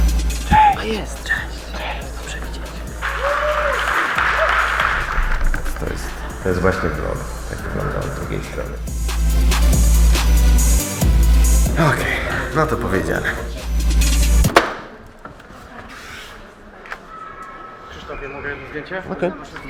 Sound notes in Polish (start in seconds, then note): 3.2 oklaski